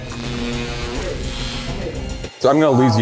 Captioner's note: electrical buzzing